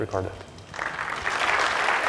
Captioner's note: applause